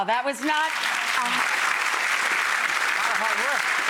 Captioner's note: audience applauding